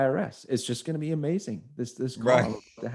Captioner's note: chuckles